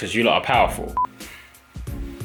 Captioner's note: beep; soft music